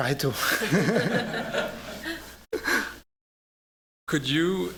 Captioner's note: laughter